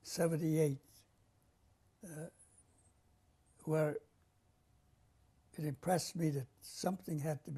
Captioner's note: pauses for 3 seconds